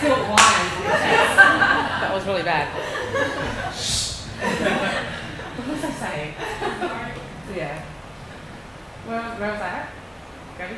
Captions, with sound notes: I still bind with that. That was really bad. (laughing) What was I saying? Where was I at?